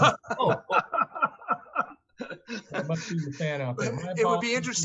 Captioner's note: laughing